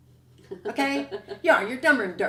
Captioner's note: laughs